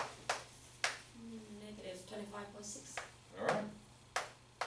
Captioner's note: voiceover